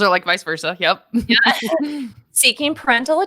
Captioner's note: laughing